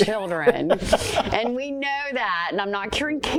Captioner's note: laughs